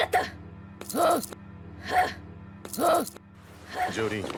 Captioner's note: Jolyne grunts back and forth